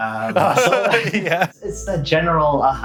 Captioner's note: laughts